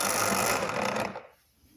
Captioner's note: grinding sound